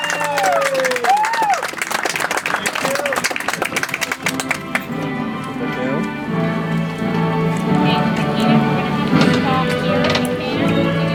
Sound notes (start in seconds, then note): 1.9 audience applauds; 8.5 soft music